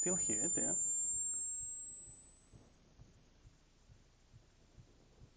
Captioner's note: pitch shifting beeping